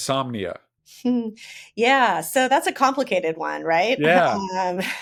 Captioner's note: laughs